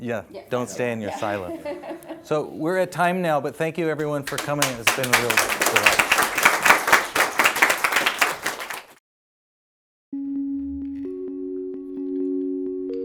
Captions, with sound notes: - Yeah, don't stay in your silo. So, we're at time now, but thank you everyone for coming. It's been a real delight. (audience applauding) (gentle music)